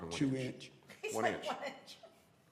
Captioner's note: laughter